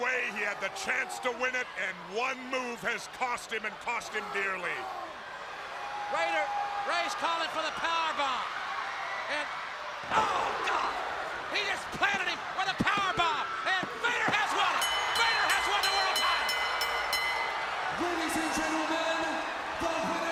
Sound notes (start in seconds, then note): 14.6 bell ringing; 19.0 crowd chatter